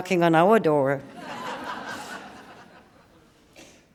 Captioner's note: laughter